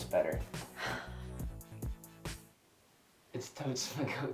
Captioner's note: sighing